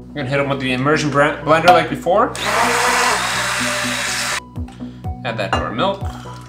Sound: blender whirs

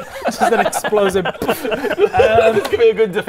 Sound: pfffp

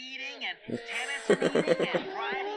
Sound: chuckles

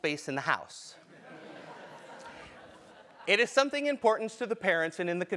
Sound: laugh

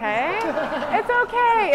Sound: laughter

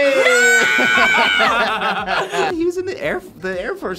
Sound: both laugh

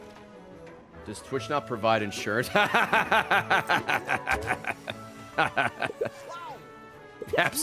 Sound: laughs

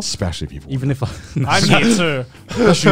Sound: laughing

